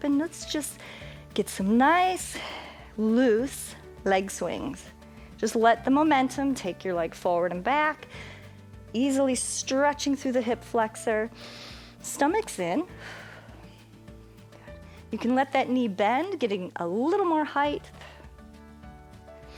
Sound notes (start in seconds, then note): 11.4 inhales; 13.8 exhales